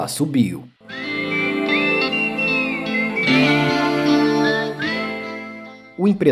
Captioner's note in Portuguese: assobio